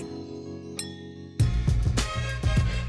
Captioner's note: glasses clinking